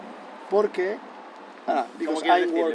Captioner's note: Spanish